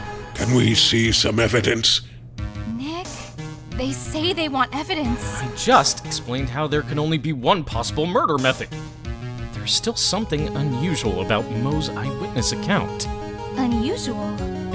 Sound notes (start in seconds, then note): 2.9 whispering